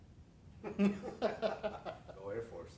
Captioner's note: laughter